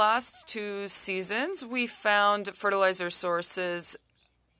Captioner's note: speaking French